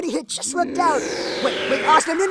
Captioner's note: Asuna growling in anger